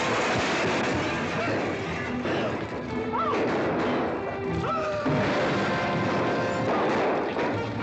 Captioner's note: chaos and stampeding horses; gunfire & commotion; cavalry bugle call